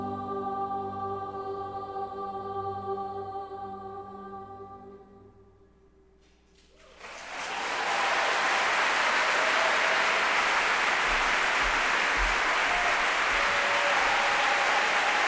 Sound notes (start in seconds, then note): 6.6 applause